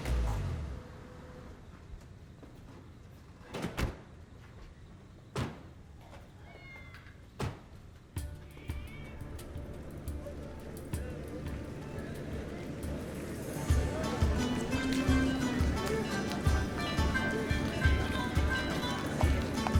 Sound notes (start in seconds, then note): 6.6 cats meowing; 8.4 upbeat Turkish music; 11.3 people chattering